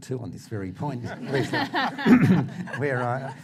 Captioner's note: laughter